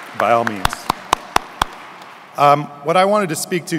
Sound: audience clapping

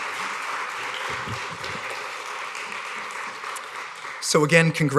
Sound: applause

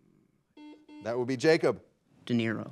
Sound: buzzer beeping

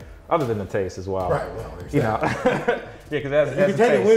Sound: laughs

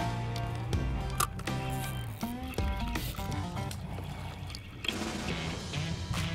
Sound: fishing rod line reeling in; rock music plays

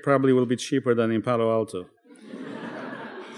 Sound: laughter

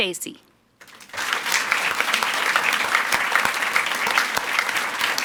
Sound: audience applauds

